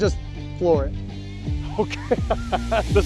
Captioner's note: laughs